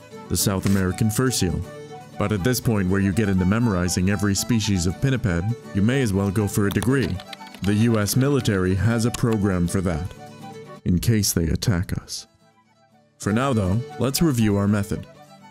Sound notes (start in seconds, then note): none